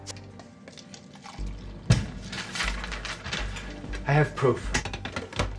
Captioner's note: coffee pouring